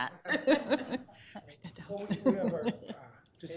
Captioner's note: laughter